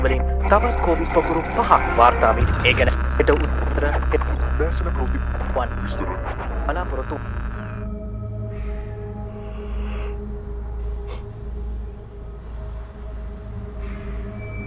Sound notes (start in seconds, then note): 2.4 radio static; 8.3 yawning